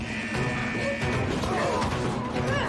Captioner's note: alarm blares